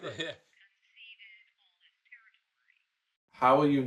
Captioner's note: phone Voice